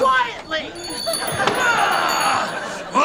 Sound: groaning

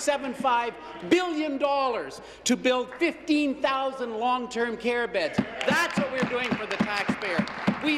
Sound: applause

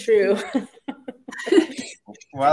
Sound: laughter

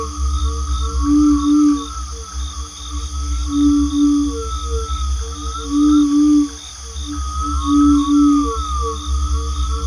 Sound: water, crickets

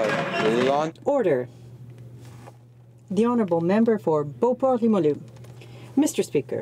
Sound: some Applause

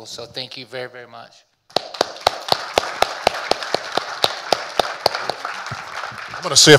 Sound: audience applauding

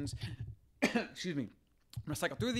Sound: coughing

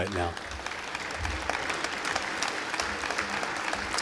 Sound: audience applauding

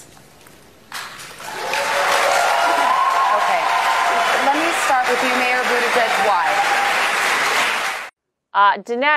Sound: audience cheering and applause

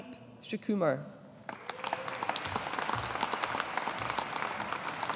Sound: audience applauding

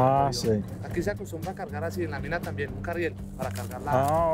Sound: speaking Spanish

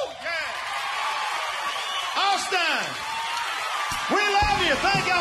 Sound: audience cheering

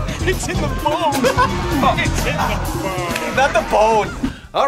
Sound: laughs

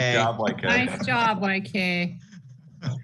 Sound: laughter

